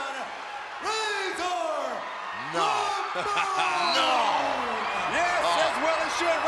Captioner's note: crowd cheers